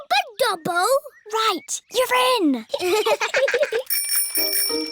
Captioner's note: both laugh; bicycle bell rings